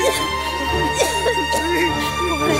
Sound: coughs

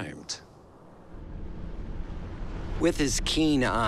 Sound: waves crashing

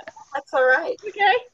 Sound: laughs

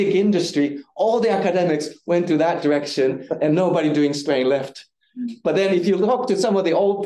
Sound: audience chuckling

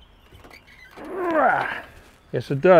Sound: grunts

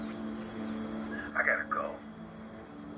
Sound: speaker phone

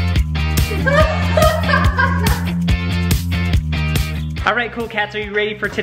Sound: laughs

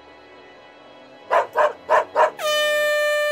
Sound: dog barks; air horn blares

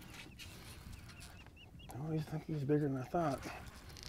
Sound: reel cranking

